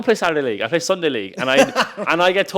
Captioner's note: host laughs